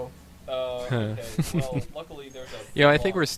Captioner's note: chuckles